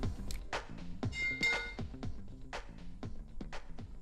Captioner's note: pipe clangs loudly to floor